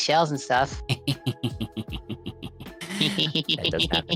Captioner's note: both laugh